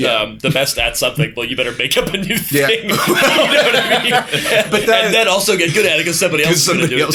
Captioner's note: laughter